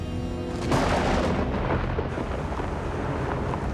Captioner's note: thunder claps